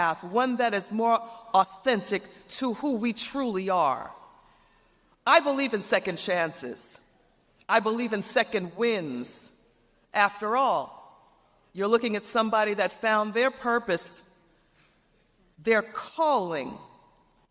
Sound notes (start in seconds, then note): none